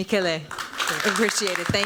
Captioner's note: applause